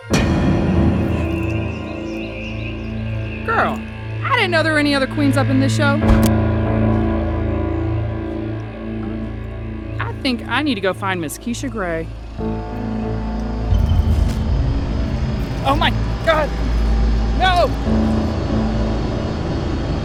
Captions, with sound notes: (startling music) Girl, I didn't know there were any other queens up in this show. (ax taps) I think I need to go find Ms. Keisha Grey. (suspenseful music) Oh, my god! No!